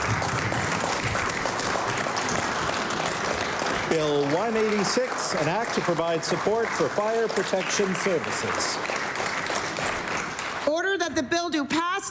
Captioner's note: cheering/Applause